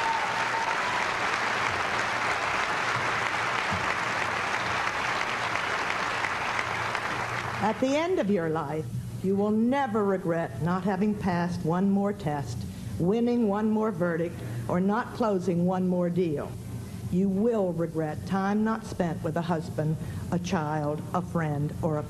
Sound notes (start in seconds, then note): 5.2 applause